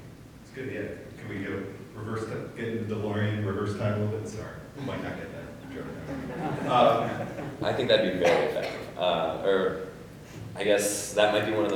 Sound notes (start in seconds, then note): 5.6 audience laughing